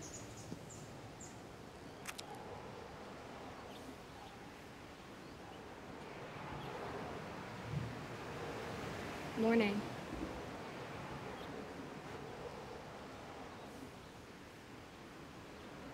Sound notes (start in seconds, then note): none